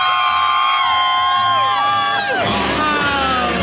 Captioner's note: crowd cheers